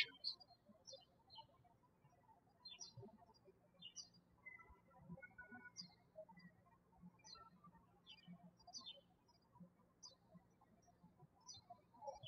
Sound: birds chirping

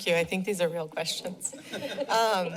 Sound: laughter

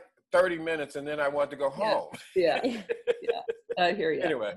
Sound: laughs

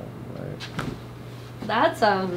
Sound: bones cracking

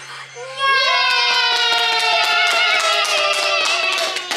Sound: everyone cheers

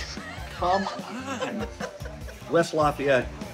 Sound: laughing

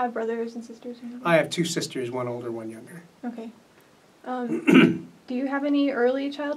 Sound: clears throat

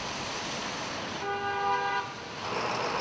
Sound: car horn

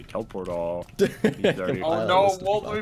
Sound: Spiff laugh

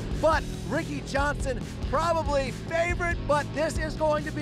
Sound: none

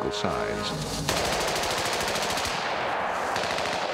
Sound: gun fires

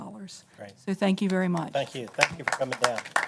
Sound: applause

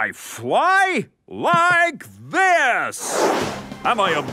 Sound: whooshing

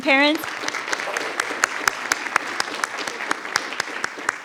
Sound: everyone applauds

